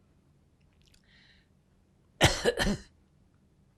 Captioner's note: coughing